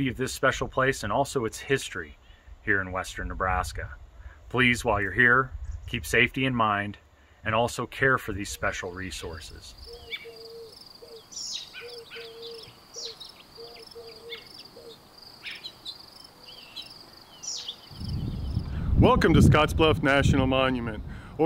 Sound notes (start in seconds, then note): 9.7 owls hooting; 9.9 birds chirping